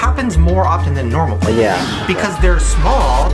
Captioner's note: man in plane crash screaming